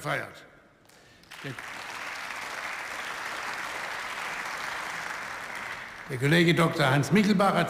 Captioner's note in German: Beifall